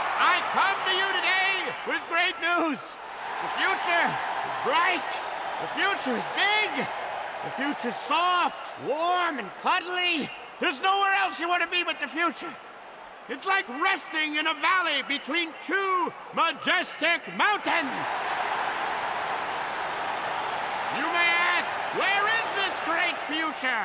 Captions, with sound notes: I come to you today with great news. The future is bright. The future is big. The future's soft, warm, and cuddly. There's nowhere else you wanna be but the future. It's like resting in a valley between two majestic mountains. [cheers and applause] You may ask, "Where is this great future,